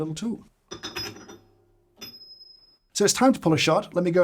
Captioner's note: tool clinking